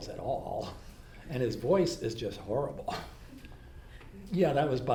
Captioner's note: laughs